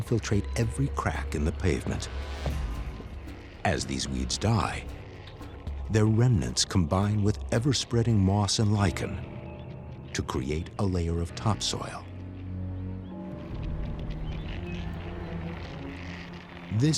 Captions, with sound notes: weeds like dandelions infiltrate every crack in the pavement. As these weeds die, their remnants combine with ever-spreading moss and lichen to create a layer of topsoil. [gloomy music] [crinkling]